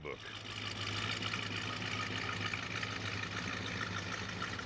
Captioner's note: engine running